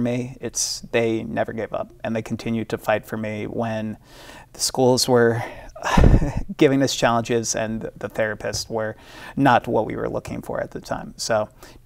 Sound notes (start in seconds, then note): 5.8 chuckles